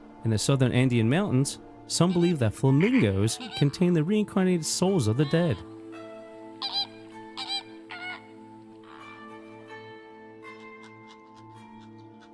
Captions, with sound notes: In the southern Andean mountains, some believe that flamingos contain the reincarnated souls of the dead. (Flamingos squawking) (Mysterious music)